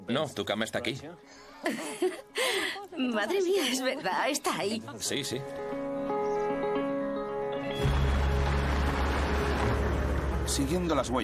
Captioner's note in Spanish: risas